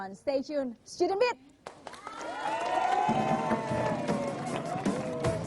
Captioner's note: applause